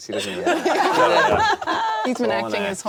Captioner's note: all laugh